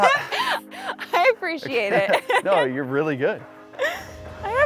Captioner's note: laughs; laughs